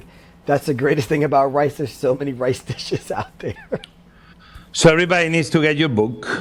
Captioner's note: laughs